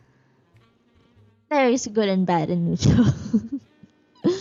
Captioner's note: laughs